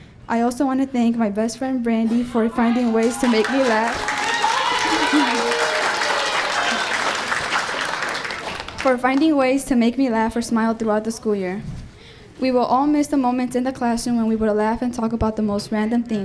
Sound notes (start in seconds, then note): 4.7 giggles